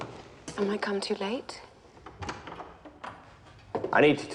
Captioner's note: door opens